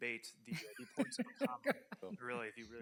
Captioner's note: chuckles